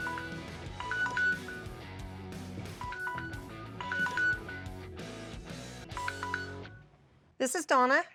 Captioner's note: phone ringing